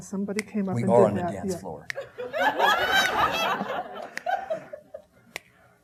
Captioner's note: audience laughing